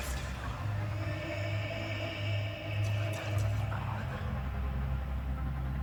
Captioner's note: "Marie" keeps echoing